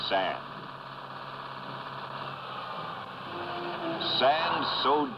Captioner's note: engine roaring